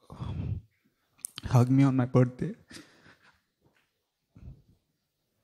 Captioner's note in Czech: lehké vzlykání